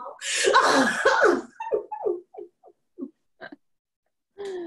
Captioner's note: both laugh